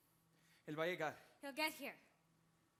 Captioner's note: speaking Spanish